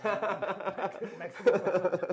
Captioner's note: laughs